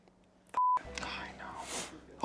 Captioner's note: beep